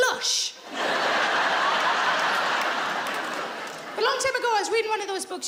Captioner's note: audience laughs